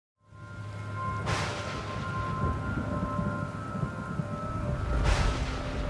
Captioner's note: rain pattering and thunder rumbling